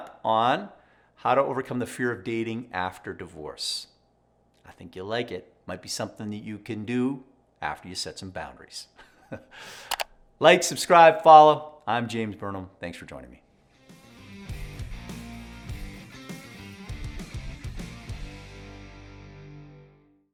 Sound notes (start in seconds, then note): 9.8 laughs; 15.5 upbeat rock music